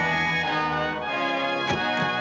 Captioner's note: whistle blows